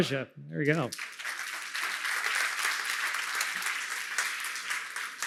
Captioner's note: applause